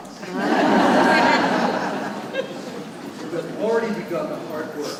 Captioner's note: audience laughing